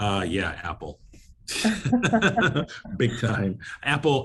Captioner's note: both laugh